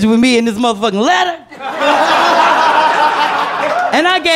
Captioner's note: laughter